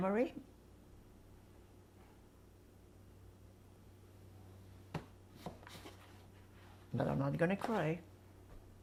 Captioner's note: pauses 6 seconds